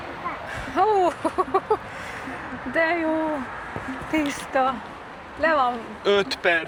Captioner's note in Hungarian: nevetés